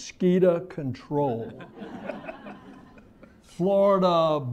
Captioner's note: laughter